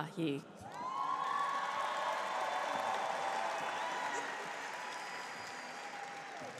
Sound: cheers; audience applauds

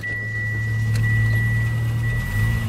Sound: car engine starting

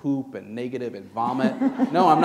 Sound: laughter

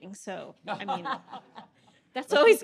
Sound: audience laughing

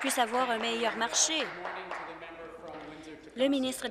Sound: applause

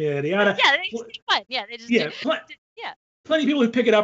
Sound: overlapping chattering

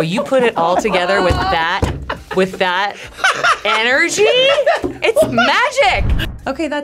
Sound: laughing

